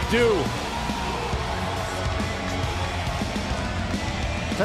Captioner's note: crowd cheering